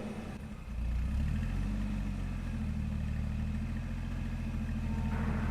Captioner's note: car approaching